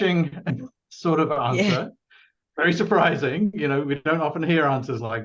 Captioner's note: laughs